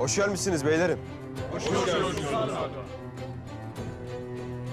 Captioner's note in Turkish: Hep bir ağızdan